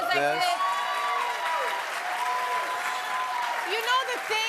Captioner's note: cheers and applause